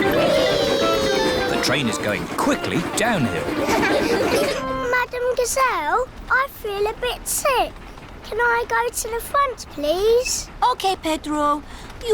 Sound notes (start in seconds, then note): 3.6 laughter